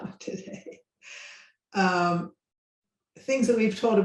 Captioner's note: laughs